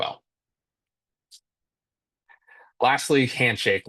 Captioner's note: silence